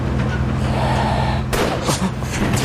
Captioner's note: gunshot